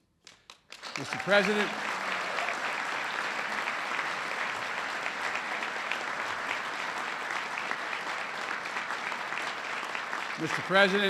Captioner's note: applause